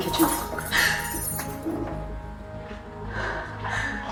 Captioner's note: noise from kitchen